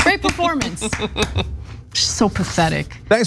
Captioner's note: laugh